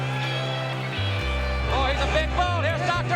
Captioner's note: crowd cheering